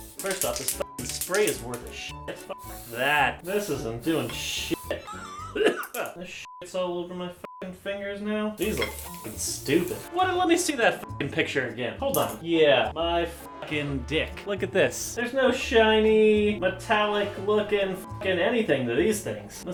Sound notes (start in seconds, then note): 4.9 cough